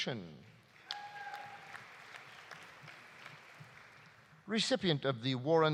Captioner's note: audience applauding; audience cheering